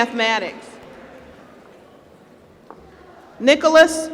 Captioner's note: applause